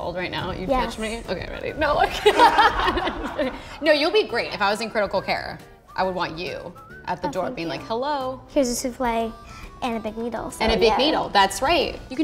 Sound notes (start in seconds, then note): 2.0 producers laughing; 2.1 laughs